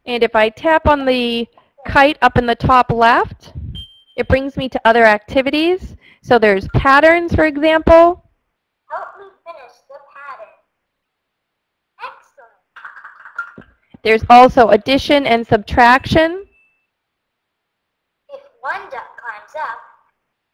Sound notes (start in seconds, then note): 0.2 voiceover; 9.0 voiceover; 14.0 voiceover; 18.5 voiceover